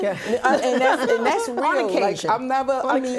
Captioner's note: laughter